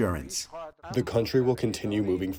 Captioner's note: through translator